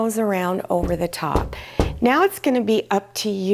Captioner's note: knocking